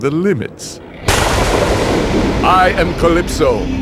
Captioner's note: thunder